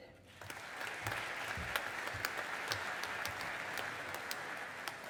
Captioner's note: audience applauding